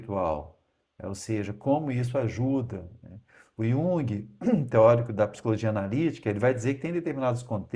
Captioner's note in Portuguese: limpando a garganta